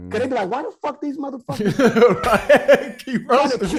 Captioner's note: host laughing